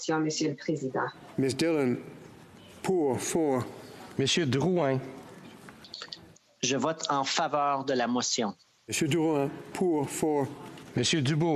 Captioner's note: speaking FRENCH